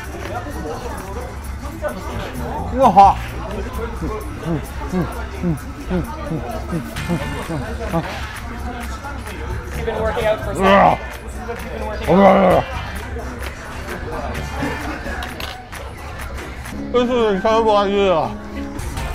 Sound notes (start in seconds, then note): 10.5 grunts more sounds like a dothraki man warrior; 12.0 grunts